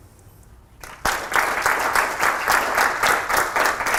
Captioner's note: applause